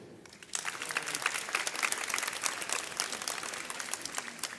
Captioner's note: audience cheers